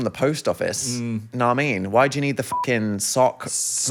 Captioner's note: beep